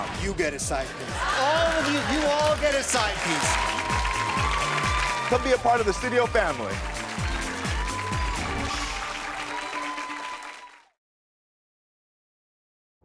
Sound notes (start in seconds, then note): 6.5 audience clapping; 6.5 upbeat music